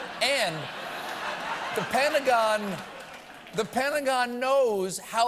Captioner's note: laughter